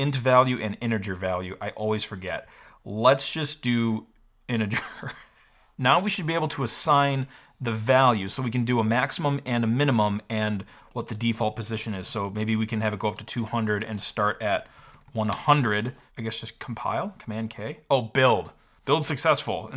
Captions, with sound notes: What's the difference between int value and integer value? I always forget. Let's just do integer. (chuckles) Now, we should be able to assign the value, so we can do a maximum and a minimum and what the default position is. So maybe we can have it go up to 200 and start at 100. I guess just compile, Command-K Oh, build, build successful.